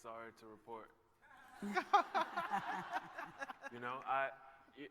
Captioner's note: laughter